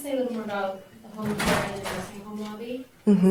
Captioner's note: doors banging drowns out voice